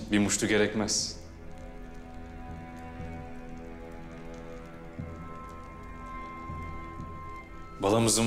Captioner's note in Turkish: Ateş çıtırtıları sesleri